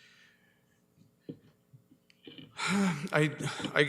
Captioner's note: sighs